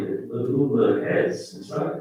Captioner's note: faintly speaking